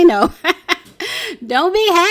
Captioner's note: laughing